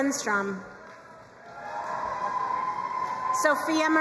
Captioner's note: crowd cheering and applauding